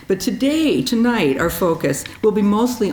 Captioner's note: none